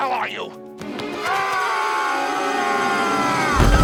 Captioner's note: screaming